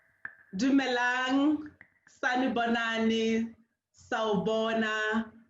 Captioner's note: sotho greeting